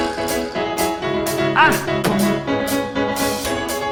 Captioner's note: boom